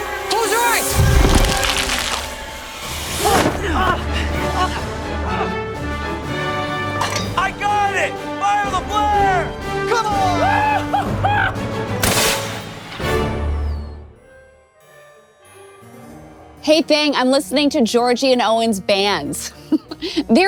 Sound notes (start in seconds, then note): 3.6 Ajax grunts; 12.0 flare firing